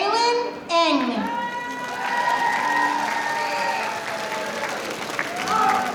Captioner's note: audience applauding